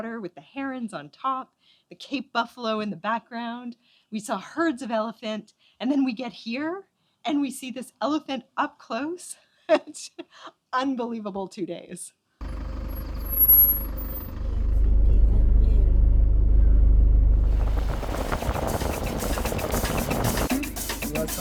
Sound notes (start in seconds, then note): 9.6 laughter